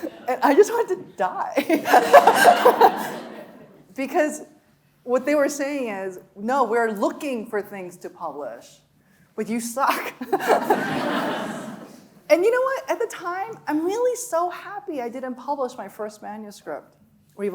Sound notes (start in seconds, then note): 0.0 audience laughing; 0.0 laughing; 1.6 laughing; 1.6 audience laughing; 10.3 laughing; 10.3 audience laughing